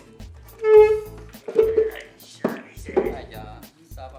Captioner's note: chair makes noise